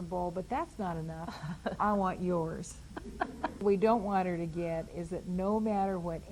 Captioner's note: laughs